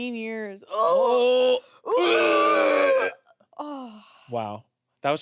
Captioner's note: retching